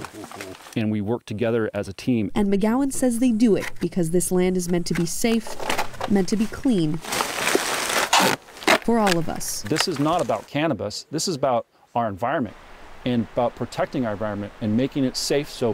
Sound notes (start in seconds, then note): 5.0 loud rustling; 12.3 water rushing